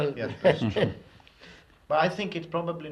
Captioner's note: laughs